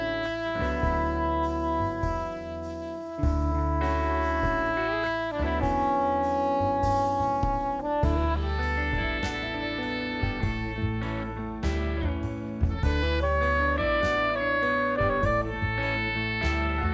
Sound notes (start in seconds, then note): none